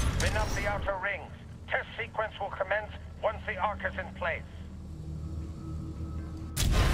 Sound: radio

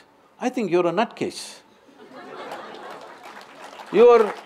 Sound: laughter/Applause

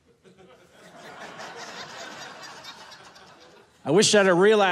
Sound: audience laughing

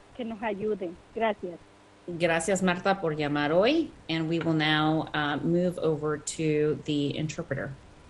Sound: speaking in foreign language

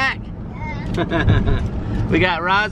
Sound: laughs

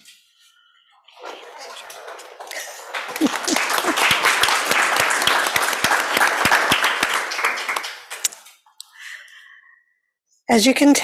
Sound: applause

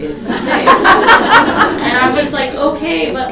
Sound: audience laughs

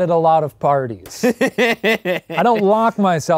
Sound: laughing

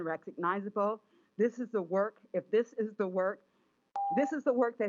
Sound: chime

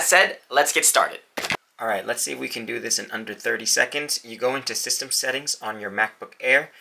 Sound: hand smacks the camera

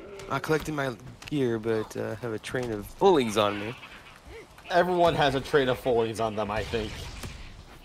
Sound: none

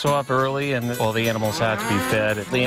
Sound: mooing

